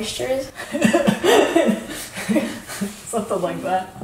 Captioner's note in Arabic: يضحك